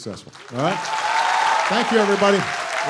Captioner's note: applause